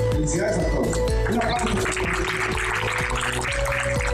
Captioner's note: clapping